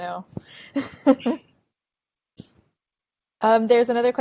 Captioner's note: laughing